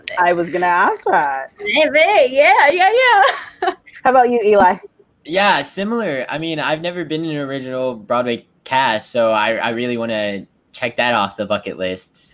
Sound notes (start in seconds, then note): 4.5 chuckles